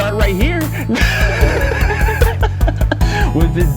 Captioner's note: both laugh